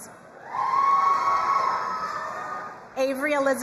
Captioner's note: crowd cheering and applauding